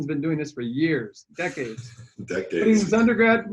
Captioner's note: laughing